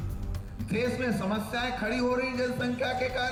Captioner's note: speaking hindi